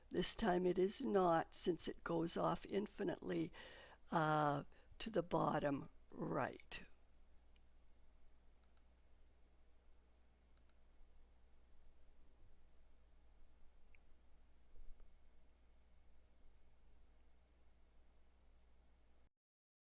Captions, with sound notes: This time it is not since it goes off infinitely to the bottom right. [silence]